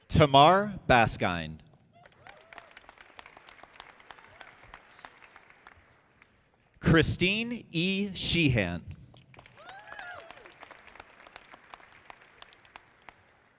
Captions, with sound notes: Tamar Baskind. (audience clapping) Christine E. Shehan. (audience applauding)